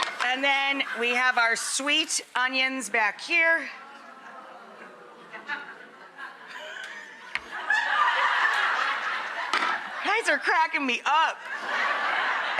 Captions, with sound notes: and then we have our sweet onions back here. (laughing) You guys are cracking me up.